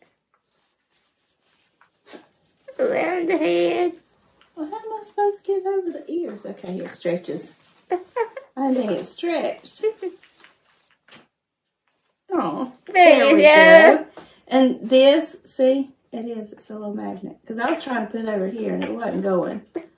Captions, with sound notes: Me - Around the head. Mom - Now how am I supposed to get it over the ears? Okay, it stretches. Mom - I didn’t think it stretched. Me - *laughing* Mom - Aww. Both - There we go! Mom - And this, see. Mom - It is, it's a little magnet. Mom - Cause I was trying to put it over here and it wasn’t goin.